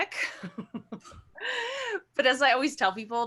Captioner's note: laughs